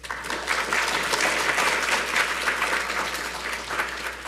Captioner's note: audience applauds